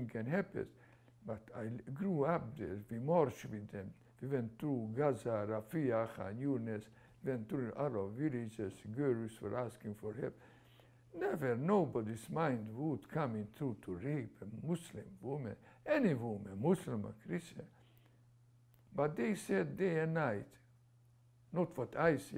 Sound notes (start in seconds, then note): 6.1 non-english